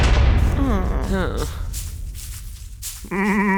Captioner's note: gates slam; woman and man whine; sheep bleats